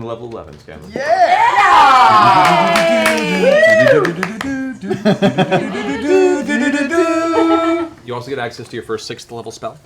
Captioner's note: cheering and singing Super Mario victory ditty